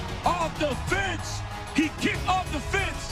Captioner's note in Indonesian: Tepuk Tangan